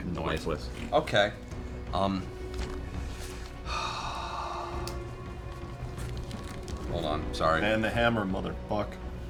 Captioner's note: sighs